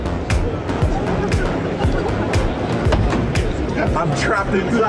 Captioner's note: laughing